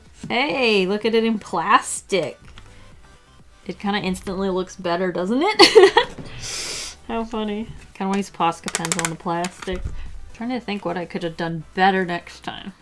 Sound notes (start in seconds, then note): 5.6 laughs